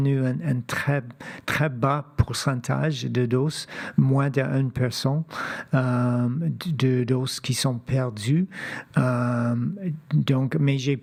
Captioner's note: speaking French